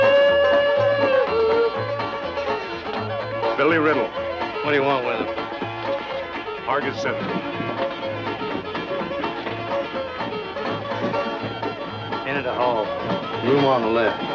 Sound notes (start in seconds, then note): none